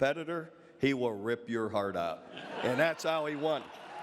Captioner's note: audience laughs